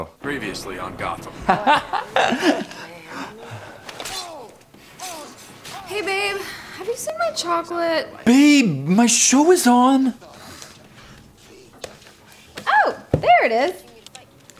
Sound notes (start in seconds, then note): 1.5 fighting to the death sounds